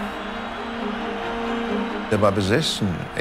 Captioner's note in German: Applaus